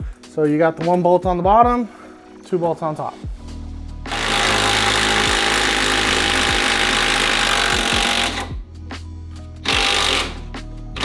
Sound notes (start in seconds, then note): none